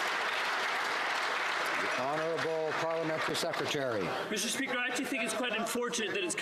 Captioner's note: some Applause